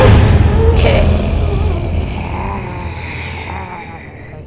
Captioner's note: growls